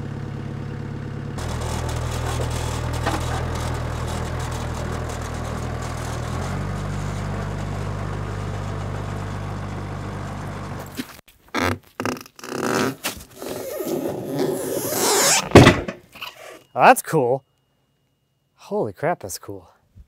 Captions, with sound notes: (wood slab creaks) (wood slab thuds) Oh, that's cool. Holy crap, that's cool.